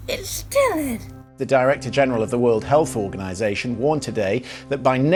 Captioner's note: rolling news audio